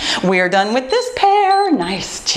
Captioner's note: timer beeps